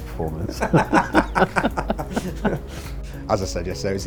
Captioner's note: laughing